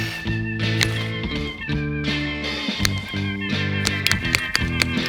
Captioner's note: chill rock music; cutter clicks